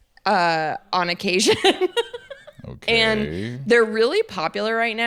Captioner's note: laughs